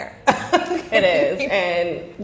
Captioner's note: laughing